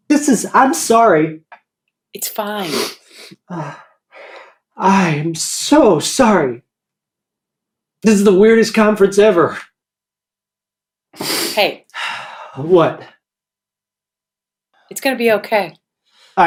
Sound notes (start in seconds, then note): 2.6 sighs; 11.9 deep breath